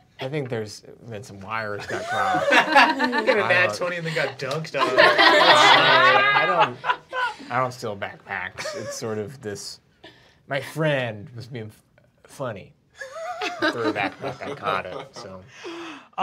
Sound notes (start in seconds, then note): 5.1 group laughing; 13.0 laughing